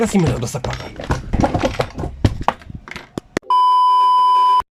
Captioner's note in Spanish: Sonido de Golpes